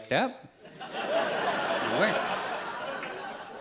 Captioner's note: audience laughs